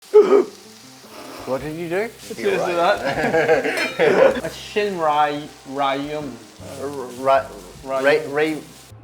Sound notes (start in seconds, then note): 0.0 laughs; 2.9 laughter